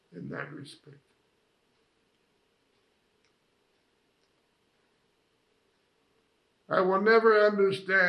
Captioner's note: pauses 6 seconds